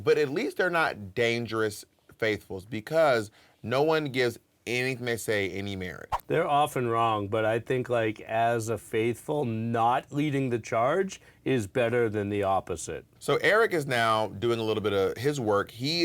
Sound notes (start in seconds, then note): none